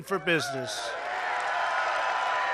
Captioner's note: applause